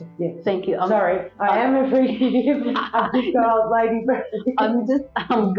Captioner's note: laugh